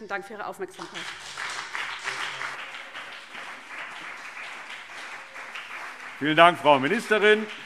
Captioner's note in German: Beifall CDU und BÜNDNIS 90/DIE GRÜNEN